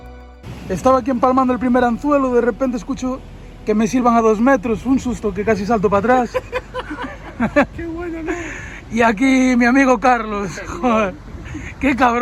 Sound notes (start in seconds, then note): 6.0 laughs